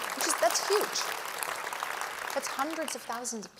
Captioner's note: applause